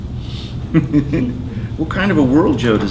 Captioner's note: laughing